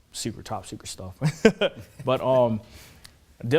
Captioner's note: chuckles